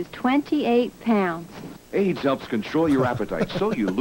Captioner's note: laughs